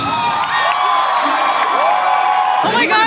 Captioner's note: audience applauds